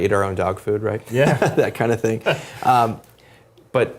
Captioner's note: laugh